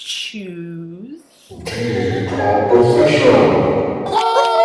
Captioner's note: scary voice; highpitched cheers and applause